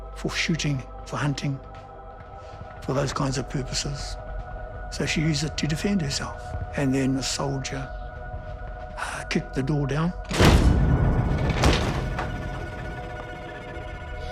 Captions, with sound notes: for shooting, for hunting, for those kinds of purposes. So she used it to defend herself. And then the soldier kicked the door down. (loud crashing)